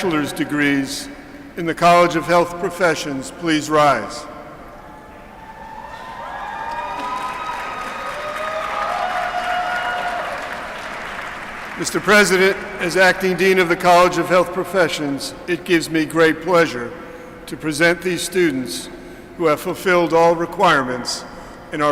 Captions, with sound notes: College of Health Professions please rise? (Applause) Mr. President, as Acting Dean of the College of Health Professions, it gives me great pleasure to present these students who have fulfilled all requirements and are recommended by the faculty.